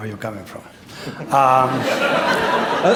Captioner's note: laughter